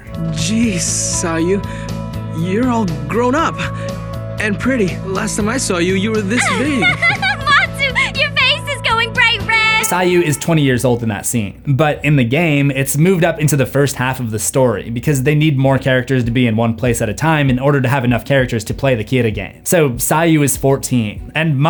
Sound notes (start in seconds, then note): 6.2 Misa laughing